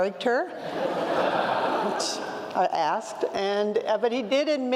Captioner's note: laugh